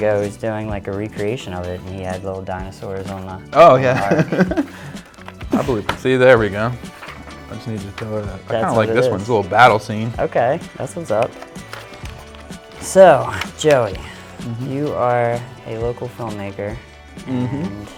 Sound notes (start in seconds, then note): 3.7 hearty laughing